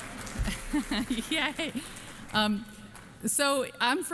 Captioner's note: applause